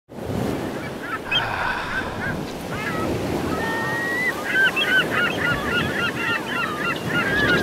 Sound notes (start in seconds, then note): 0.1 sounds of gulls and waves; 1.2 sigh